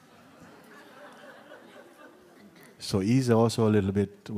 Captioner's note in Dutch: gelach